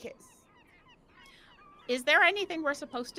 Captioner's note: birds cawing